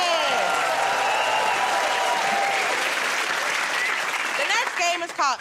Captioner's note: cheers and applause